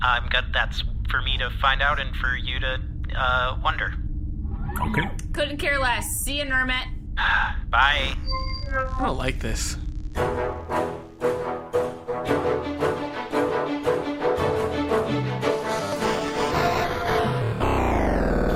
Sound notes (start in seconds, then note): 7.8 end-transmission noise; 8.2 sighs; 14.3 intermission music interrupted by static